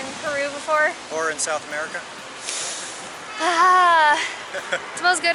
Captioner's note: inhales deeply